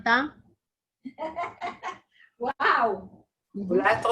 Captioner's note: laughing